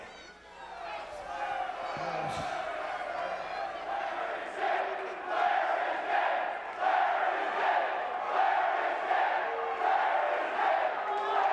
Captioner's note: crowd cheering